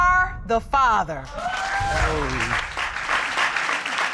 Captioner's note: audience applauding